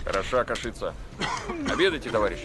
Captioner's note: soldier coughing